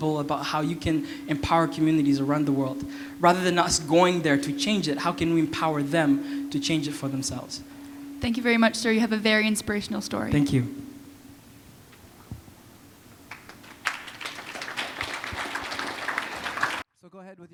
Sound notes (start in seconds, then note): 11.3 applause